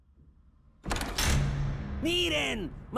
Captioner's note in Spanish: Puerta se abre